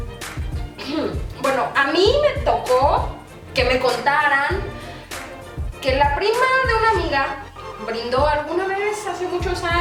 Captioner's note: clears throat